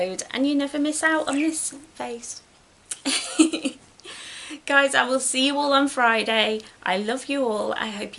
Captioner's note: giggles